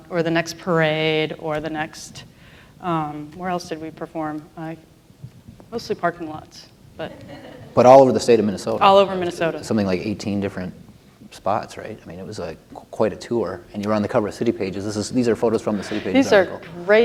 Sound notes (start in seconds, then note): 7.1 laughter; 15.8 laughter